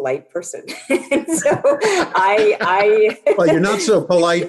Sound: laughs

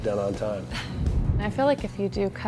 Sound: laughs

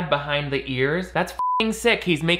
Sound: beeping

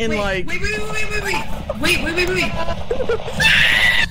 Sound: screams

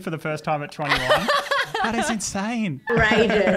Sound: laughs

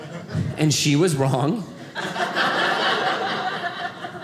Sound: audience laughing

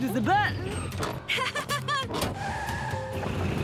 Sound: chuckles

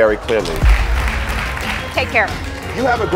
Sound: audience applauds

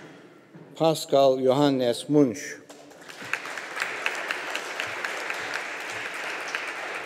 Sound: audience applauding

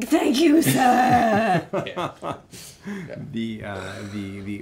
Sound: laughing

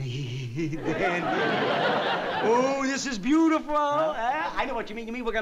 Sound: chuckles

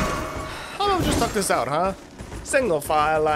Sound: sigh

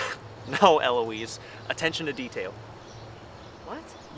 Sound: chuckles

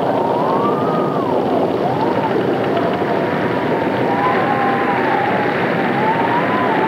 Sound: thunder booms; rain pouring; wind howling

